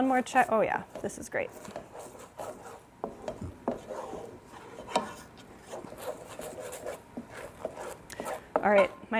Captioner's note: spoon stirring in pan